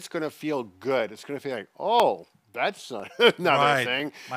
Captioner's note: laughs